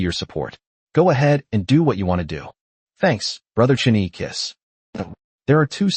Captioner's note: kiss